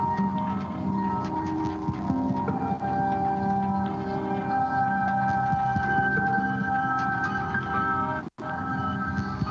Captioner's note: beeping